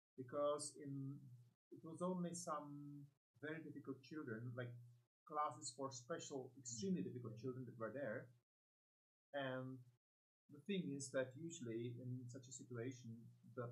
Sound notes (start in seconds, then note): none